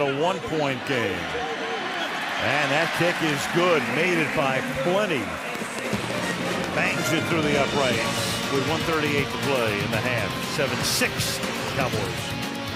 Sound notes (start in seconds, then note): 2.1 cheering